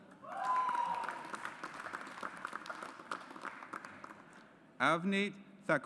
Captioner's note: audience applauds